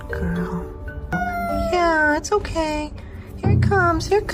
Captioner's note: cat Caterwauling